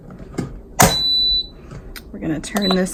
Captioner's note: lid beeping